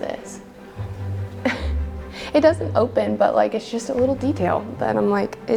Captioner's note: laughs